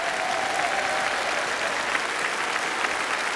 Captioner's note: applause